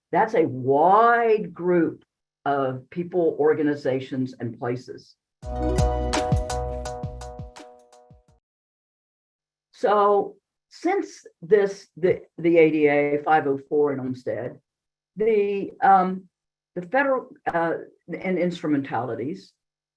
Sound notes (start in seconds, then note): 5.5 bright sound